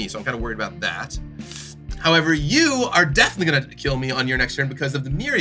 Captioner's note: sucks air through teeth